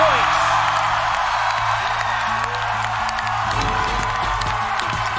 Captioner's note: crowd cheering